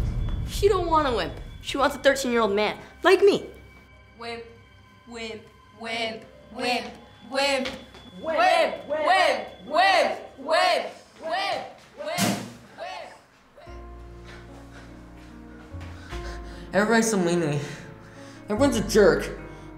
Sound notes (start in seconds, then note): 10.9 continues chant in blackground